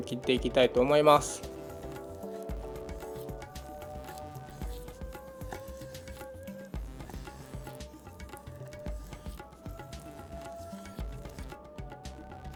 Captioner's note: the sound of cutting